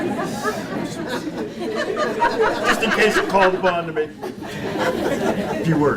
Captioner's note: audience giggles and laughs